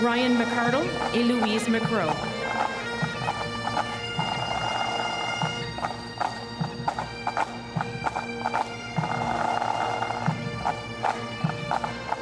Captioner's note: speaking French